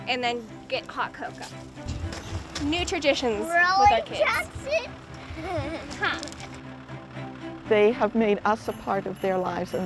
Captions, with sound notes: and then get hot cocoa. New traditions with our kids. (children laughing) (tractor rumbling) - They have made us a part of their lives